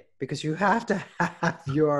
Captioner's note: laughs